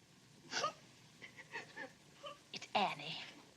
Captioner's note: Annie sobbing